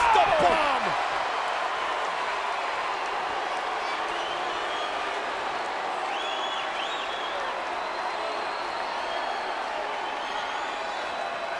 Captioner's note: applause